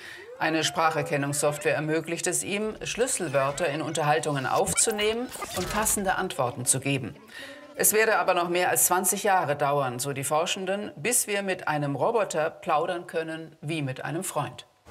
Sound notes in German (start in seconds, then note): none